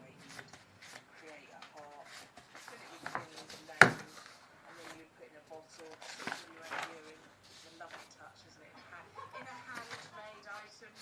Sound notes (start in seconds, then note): 1.9 background noise of folklore podcast